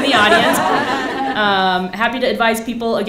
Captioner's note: laughs